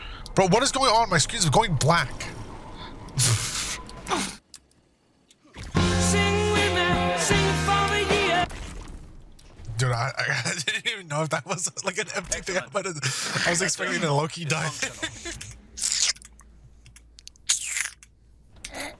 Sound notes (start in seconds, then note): 16.8 sucking teeth playfully